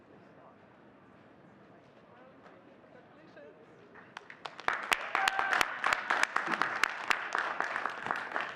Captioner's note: audience cheering and clapping